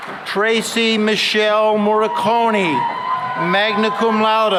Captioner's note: applause; cheering